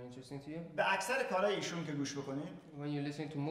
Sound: speaking in farsi

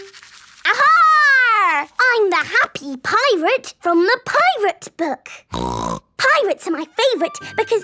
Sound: snorting

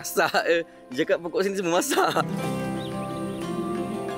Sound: laugh

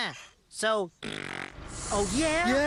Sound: blows raspberry

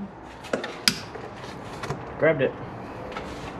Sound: lock clicks

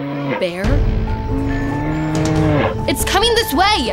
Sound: growling continues

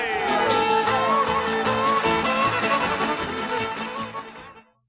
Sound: applause, fiddle continues

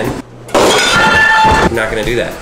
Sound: metallic clang; screaming

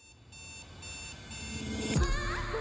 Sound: alarm clock ringing

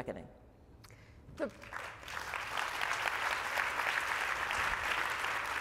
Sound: applause

